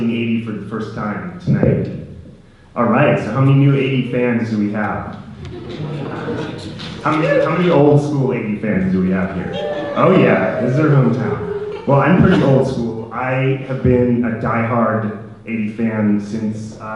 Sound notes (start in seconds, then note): 5.4 audience laughter, clapping; 9.1 audience cheering